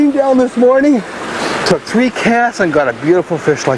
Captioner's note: water splashing